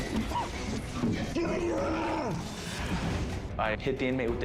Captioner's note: shouting